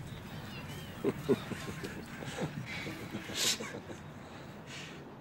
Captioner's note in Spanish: se ríe